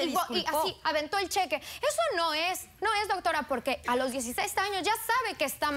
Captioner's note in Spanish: Hablan al unísono